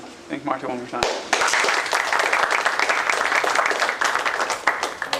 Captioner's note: applause